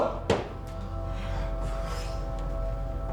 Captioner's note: stomp